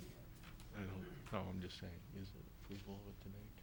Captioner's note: speaking distantly